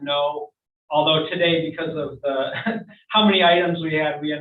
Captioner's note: laughs